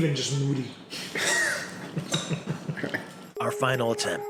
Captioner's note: laughs